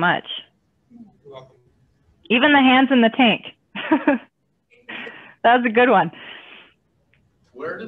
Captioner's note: laughing